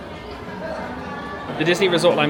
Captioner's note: crowd murmuring